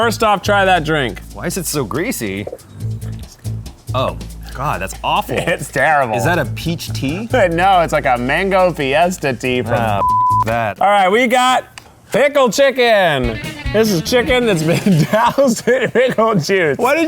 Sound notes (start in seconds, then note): 0.0 upbeat music; 10.0 beep; 13.2 upbeat music